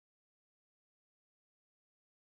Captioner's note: speaking French